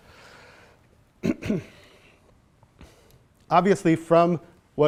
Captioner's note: clears throat